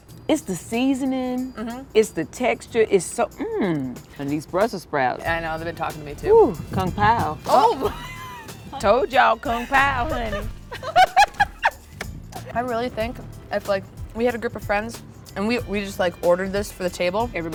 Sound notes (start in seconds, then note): 7.6 laughs; 9.6 laughing